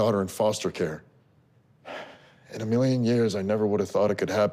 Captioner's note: sighs